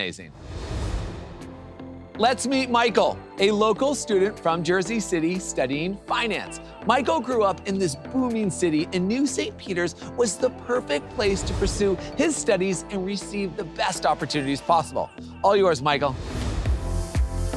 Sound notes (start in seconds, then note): 0.2 graphics whoosh; 1.7 soft electronic music; 10.8 graphics whoosh; 16.2 graphics whoosh; 17.3 electronic music intensifies